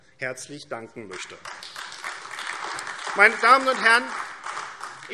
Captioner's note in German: Beifall AfD